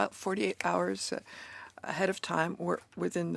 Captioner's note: speaking in French